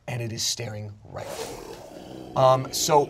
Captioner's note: wolf growls